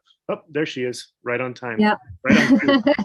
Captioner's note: laughs